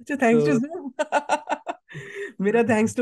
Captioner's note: laughs